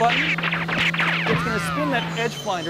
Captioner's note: cartoon shooting